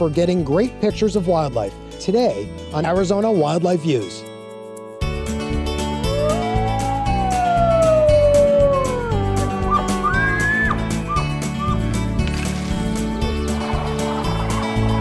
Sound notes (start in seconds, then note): 5.8 wolf howling; 9.3 elk bugling